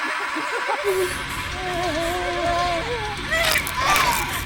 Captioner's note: woman gasping; Alice groaning; bones cracking